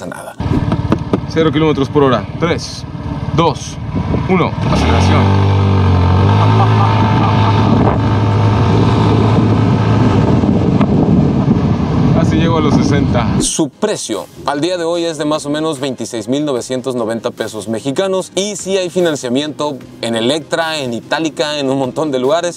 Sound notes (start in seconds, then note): 5.2 wind and engine roaring